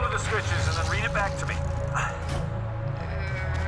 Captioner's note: grunting; metal clang